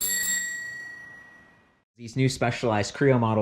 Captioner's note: bell ringing